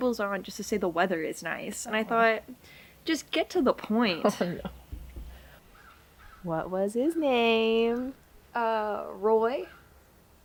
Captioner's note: laughter